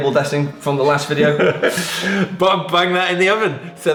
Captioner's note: laughing